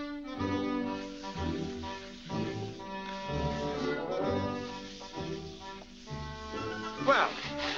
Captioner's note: wet scrubbing sounds